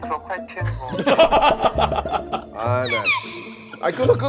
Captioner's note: big laugh